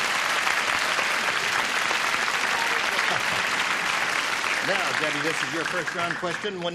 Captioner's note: applause